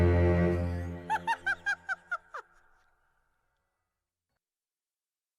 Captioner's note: laughter